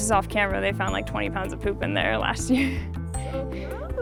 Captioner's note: laughs